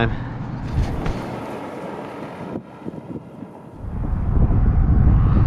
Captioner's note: truck rolls